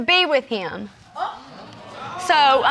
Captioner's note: audience gasping